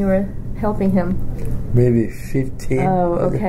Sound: laughs

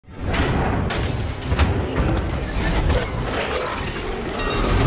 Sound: industrial noises

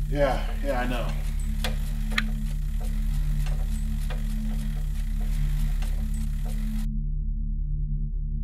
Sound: pedaling Continues

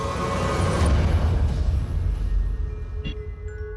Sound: chimes ring

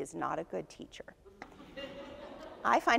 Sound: audience laughs

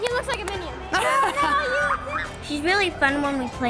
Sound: laughing

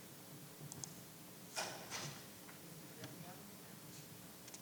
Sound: mouse clicking

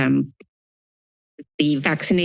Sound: silence

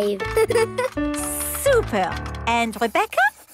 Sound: giggles

